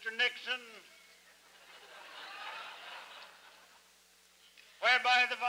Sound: laughter

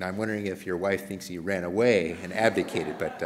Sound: laughter

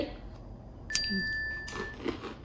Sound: bell chimes

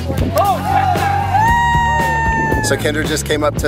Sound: men cheer

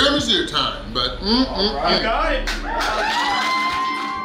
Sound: crowd cheering

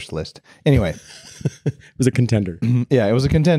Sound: chuckles

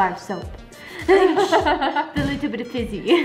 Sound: laughing

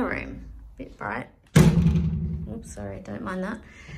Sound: door bangs against wall

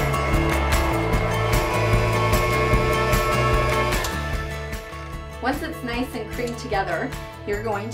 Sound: mixer whirring

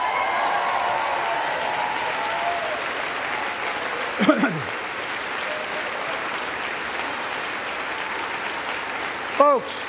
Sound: applause

